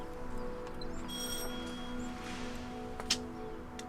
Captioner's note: door bell rings